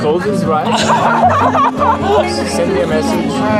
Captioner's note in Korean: 웃음